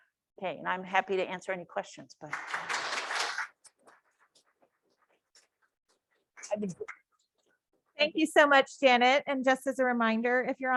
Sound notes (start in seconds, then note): 2.2 audience claps